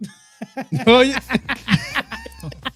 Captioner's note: laughing